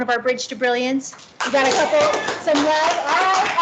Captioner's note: clapping